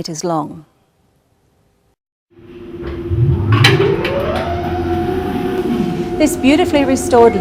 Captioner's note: lift noise